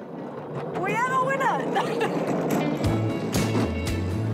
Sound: laughs; upbeat music

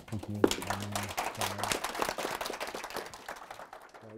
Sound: applause

